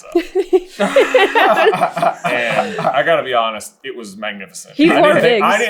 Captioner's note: team laughter